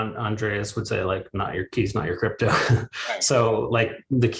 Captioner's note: chuckles